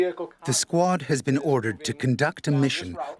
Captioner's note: voiceover